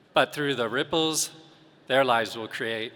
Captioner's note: none